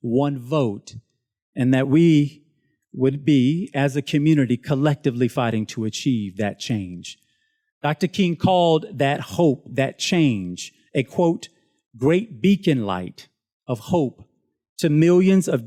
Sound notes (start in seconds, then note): none